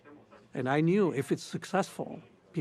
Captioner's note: murmurs